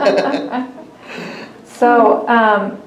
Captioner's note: laughter